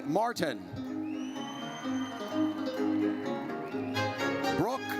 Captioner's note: audience whistles